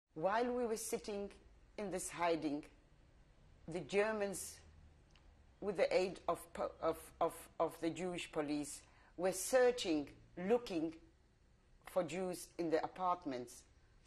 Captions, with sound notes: While we were sitting in this hiding, [PAUSES FOR 3 SECONDS] the Germans-- with the aid of-- of-- of-- of the Jewish police-- were searching, looking for Jews in the apartments.